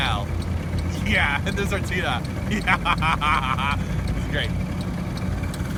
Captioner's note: evil Russian scientist laugh